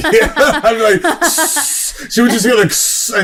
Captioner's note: chuckles; makes spraying noise